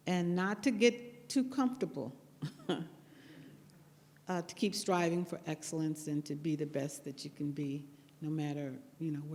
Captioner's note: laughs